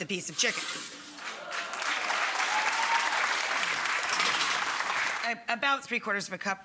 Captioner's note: audience clapping and cheering